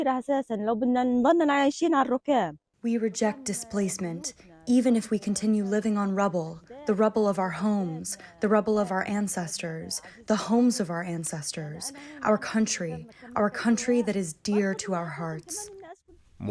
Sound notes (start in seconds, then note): 3.7 through translator